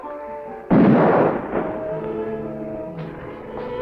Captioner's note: gunshot